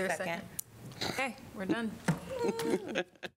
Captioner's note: laughter